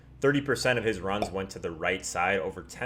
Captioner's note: pop